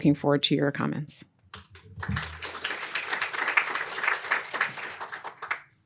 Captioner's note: applause